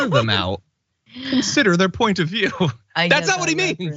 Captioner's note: laugh